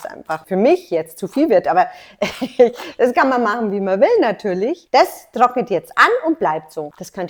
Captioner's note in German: lacht